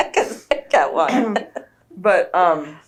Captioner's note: laughter